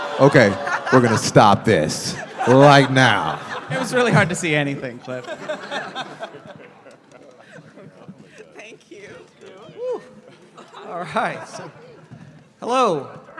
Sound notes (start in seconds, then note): 6.0 laughter